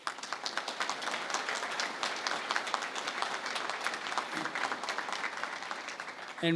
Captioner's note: applause